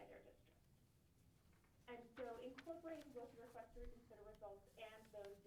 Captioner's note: drowned out by paper rustling